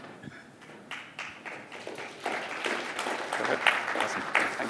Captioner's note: applause